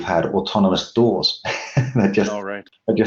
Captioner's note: laughs gently